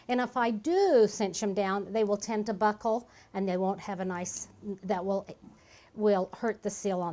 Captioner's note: stumbling words